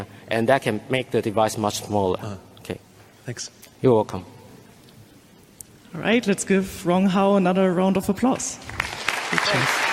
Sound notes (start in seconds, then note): 8.6 clapping